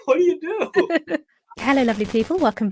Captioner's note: both laughing